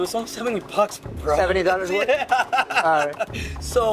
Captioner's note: laughs